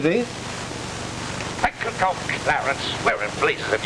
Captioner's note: static